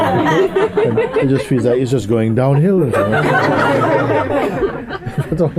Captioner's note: laughter